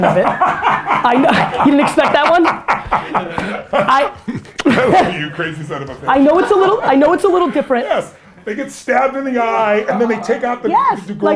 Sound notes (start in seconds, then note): 0.1 Tony laughs; 6.1 group laughter